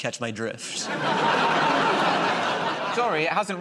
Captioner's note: laughter